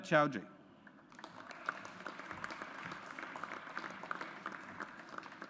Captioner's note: audience applauds